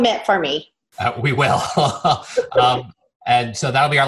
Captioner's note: chuckles